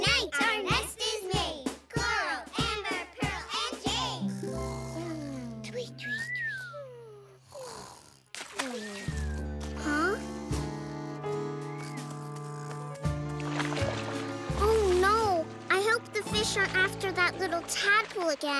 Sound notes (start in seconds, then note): 3.2 snoring; 6.0 splashing; 12.6 splashing